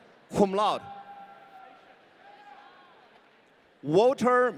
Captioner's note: audience cheering